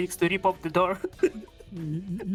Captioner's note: laughs